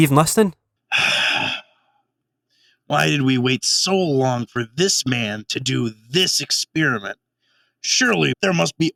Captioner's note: sigh